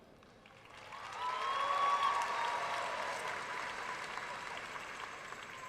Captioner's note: audience cheering and applauding